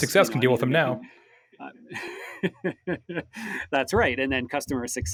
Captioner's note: laughing